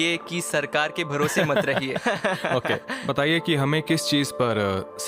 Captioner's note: chuckles